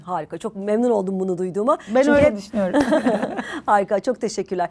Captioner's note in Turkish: kahkaha